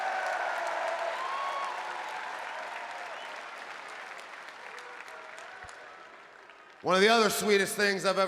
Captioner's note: applause